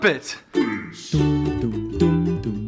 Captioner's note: low voice